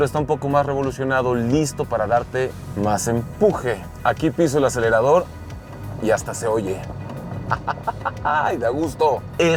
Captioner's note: laughs